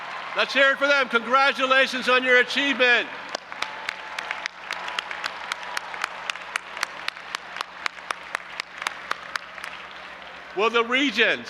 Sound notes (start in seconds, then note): 3.2 audience applauding and cheering